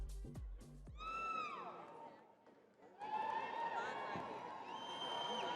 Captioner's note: upbeat music continues; crowd cheering